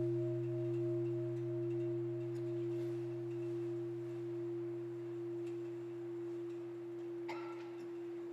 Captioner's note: bell